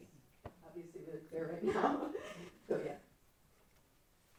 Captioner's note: laughs